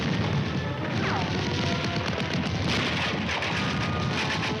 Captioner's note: guns firing